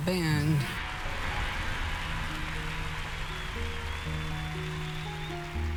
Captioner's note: audience applauding